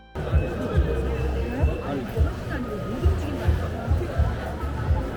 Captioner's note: Osaka street noises